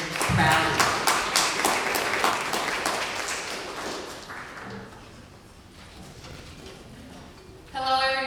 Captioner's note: applause